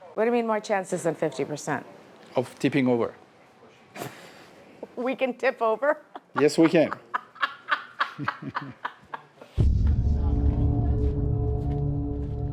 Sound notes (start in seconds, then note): 5.9 laughs; 9.6 slow music